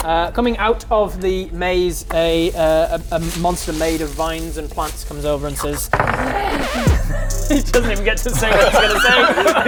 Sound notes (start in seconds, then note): 6.9 record scratch; 7.4 sultry music